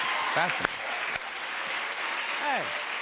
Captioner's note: applause